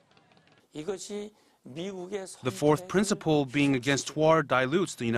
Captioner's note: Korean